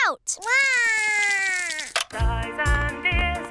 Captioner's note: cries